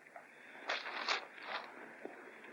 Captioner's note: paper rustles